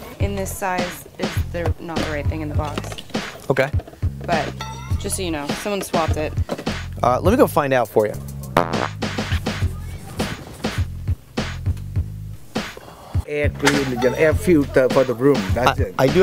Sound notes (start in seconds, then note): 8.5 fart noise; 10.7 upbeat music